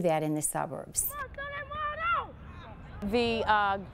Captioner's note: kids shouting